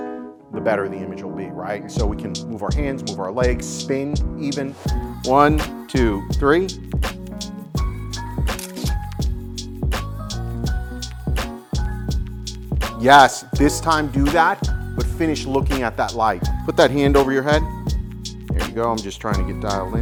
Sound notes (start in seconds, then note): 6.9 upbeat music; 8.5 camera shutter clicking; 9.6 upbeat music